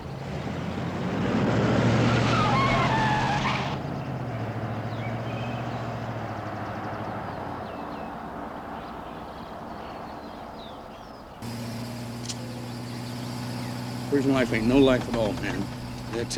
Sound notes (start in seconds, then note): 2.6 tires screeching; 5.0 birds chirping